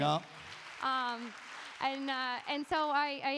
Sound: audience applauding

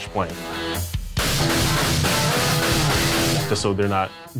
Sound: gunfire

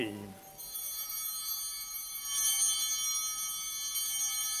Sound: bell ringing

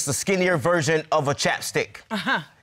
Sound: scoffs

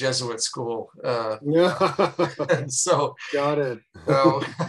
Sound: laughing

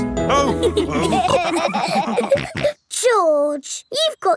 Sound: all laughing

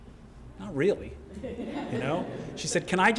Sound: laugh

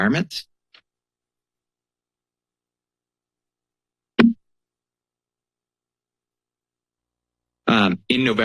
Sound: pause

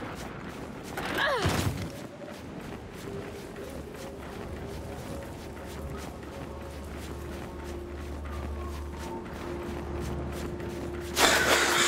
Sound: sirens wailing

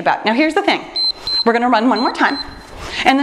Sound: timer beeps

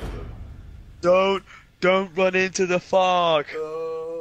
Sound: mockingly

